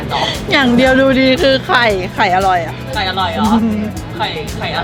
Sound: laugh

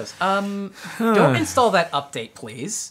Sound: groans

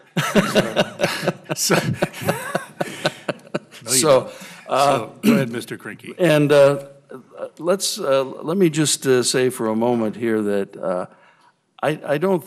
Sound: laughter

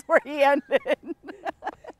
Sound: laughs

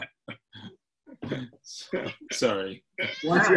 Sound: laughs

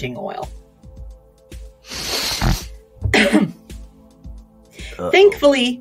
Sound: inhales through a congested nose

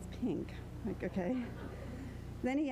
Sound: crowd laughter

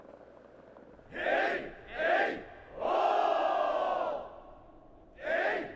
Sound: shout of joy in victory

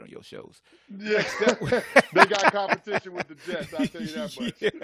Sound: laughs

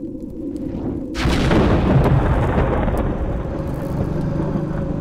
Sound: thunder, growling noises

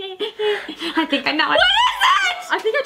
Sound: screams

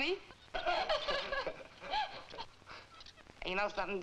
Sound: Duke and Nona laughing

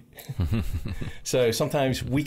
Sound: chuckles

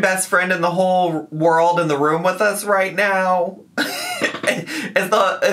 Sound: laughs

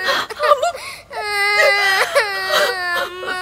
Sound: crying

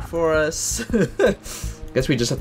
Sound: nervous laughter

